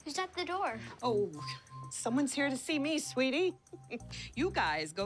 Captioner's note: chuckles